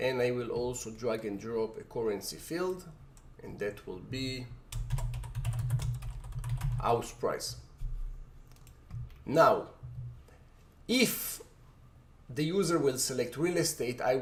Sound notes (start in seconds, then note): 4.7 keyboard typing